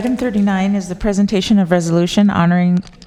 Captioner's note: applause